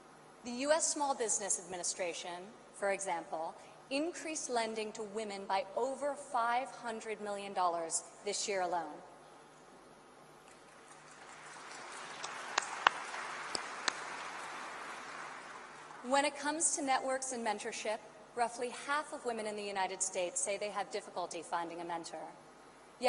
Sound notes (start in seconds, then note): 10.5 applause